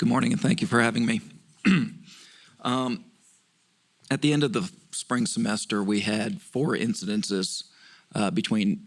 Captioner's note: cough